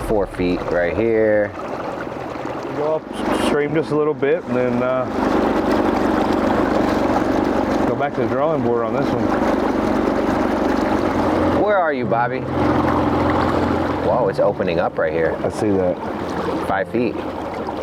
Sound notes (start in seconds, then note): 10.5 engine idling; 10.5 river babbling